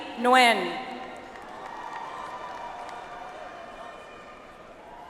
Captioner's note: audience applauds